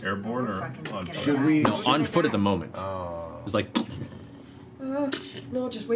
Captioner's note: impact sounds